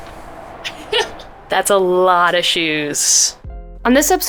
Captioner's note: laughs